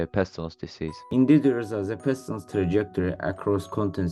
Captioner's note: enthusiastically